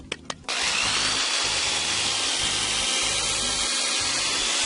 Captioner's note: drill whirring